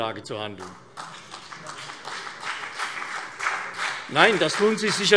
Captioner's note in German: Beifall CDU und BÜNDNIS 90/DIE GRÜNEN